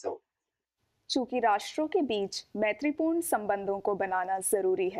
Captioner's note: speaking hindi